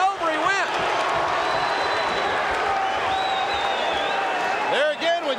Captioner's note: audience cheering